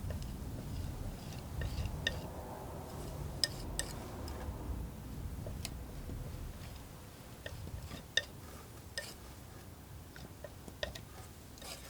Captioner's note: tapping